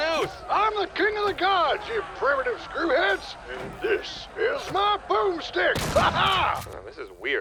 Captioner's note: shotgun shot